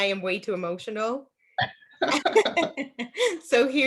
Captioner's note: laughs